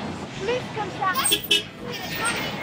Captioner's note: bus horn